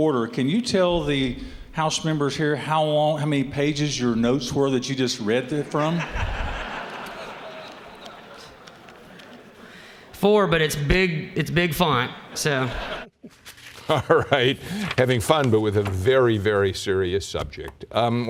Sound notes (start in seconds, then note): 5.6 laughter; 12.1 chuckling